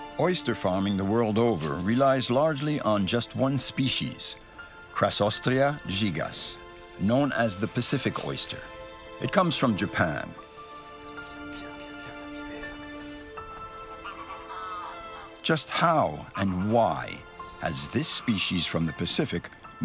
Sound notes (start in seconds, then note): 10.8 gentle music; 10.8 speaking in foreign language; 12.7 birds squawking